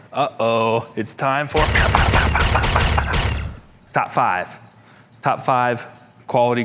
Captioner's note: video game shooting sound